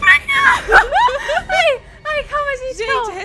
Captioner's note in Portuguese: Risadas